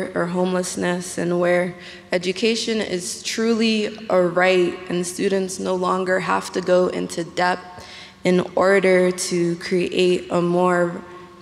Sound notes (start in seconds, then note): none